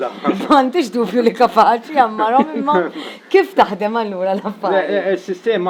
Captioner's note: laughs